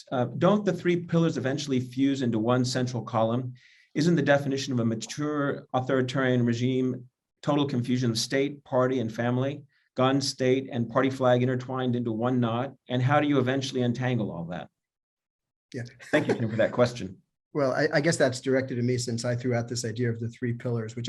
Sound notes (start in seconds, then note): 16.0 laughter